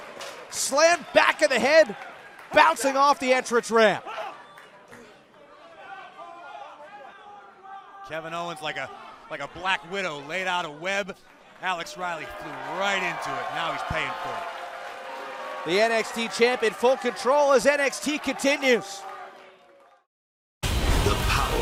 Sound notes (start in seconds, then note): 14.8 cheers & applause